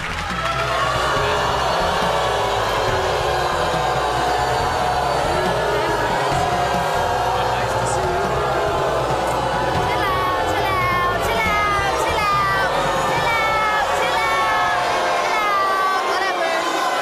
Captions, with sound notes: (crowd jeers) Well, nice to see you. - Chill out, chill out, chill out, chill out. Chill out, chill out, chill out, whatever.